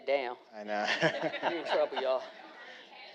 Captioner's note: all laughing